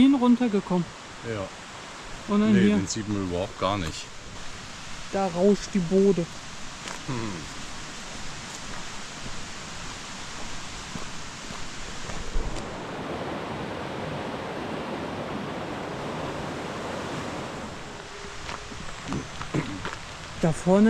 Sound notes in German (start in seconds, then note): 10.2 Wasserrauschen